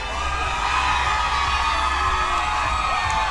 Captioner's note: crowd chanting